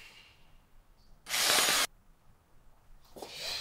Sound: hissing

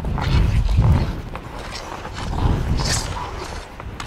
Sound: hockey stick scraping

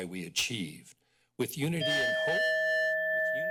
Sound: timer dings

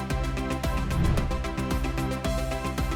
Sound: bright upbeat music continues; air whooshing; bright upbeat music continues

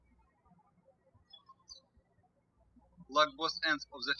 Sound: birds chirping

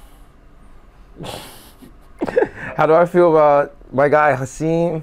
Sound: laughter

